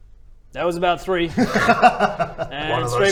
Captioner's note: laughter